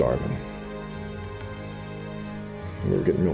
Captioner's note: breathing